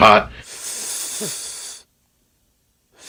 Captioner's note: inhales